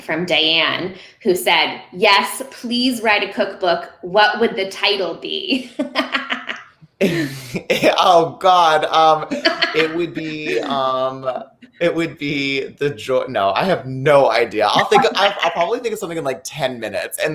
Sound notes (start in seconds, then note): 7.0 laughing